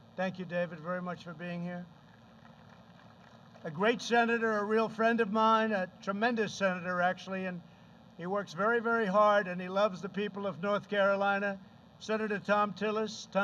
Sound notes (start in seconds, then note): 2.0 applause